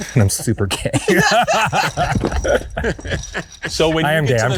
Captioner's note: crowd laughing